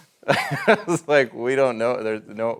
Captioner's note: laughs